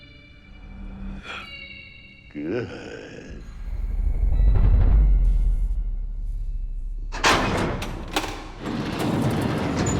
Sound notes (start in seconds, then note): 7.2 door unlocking